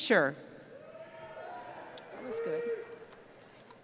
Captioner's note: cheering